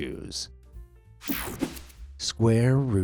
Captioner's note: screen whooshing